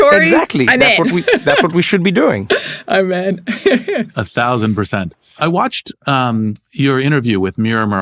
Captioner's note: laugh